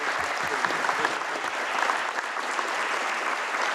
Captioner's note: applause